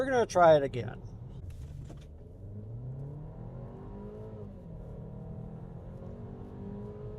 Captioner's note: engine revving